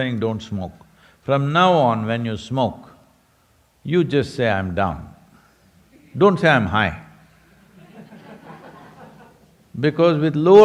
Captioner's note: laughter